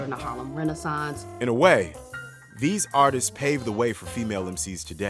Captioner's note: voiceover